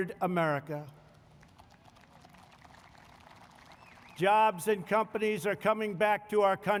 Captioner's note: applause